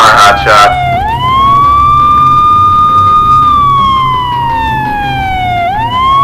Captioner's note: sirens